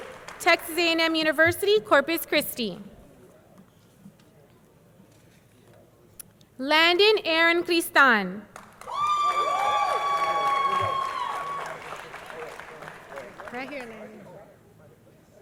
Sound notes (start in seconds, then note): 8.5 audience clapping; 8.8 audience cheering